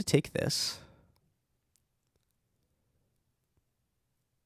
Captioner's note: silence